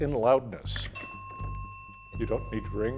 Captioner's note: bell ringing